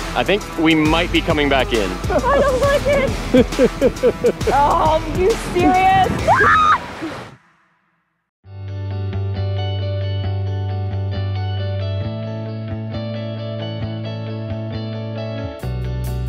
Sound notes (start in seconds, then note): 1.8 laughing; 6.2 screaming; 8.5 calm music